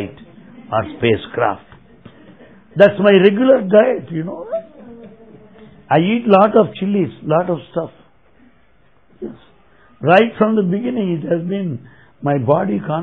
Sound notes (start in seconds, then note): 0.9 laughter